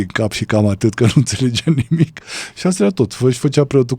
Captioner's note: laughter